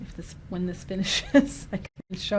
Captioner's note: laughter